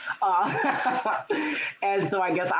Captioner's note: laughing